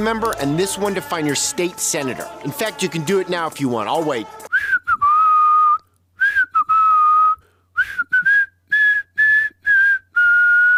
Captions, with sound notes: member and this one to find your state senator. In fact, you can do it now if you want. I’ll wait. [WHISTLING]